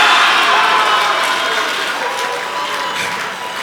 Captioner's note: audience applause